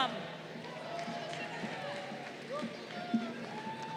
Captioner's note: crowd cheering